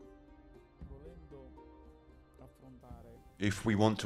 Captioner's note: speaking in foreign language